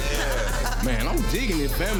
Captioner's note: woman chuckling